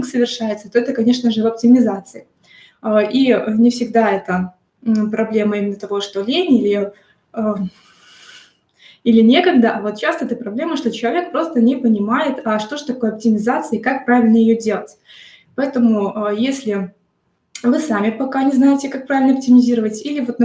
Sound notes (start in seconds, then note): 8.3 sigh